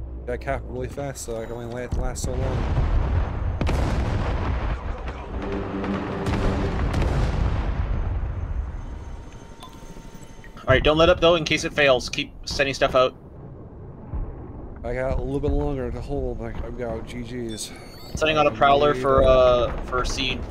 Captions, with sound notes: Get this done, I can only last so long. *Bombs exploding* *Machine guns blaring* Don't let up, just in case it fails. I got a little longer to hold. Setting out a prorler for seed.